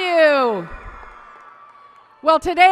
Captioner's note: applause and cheering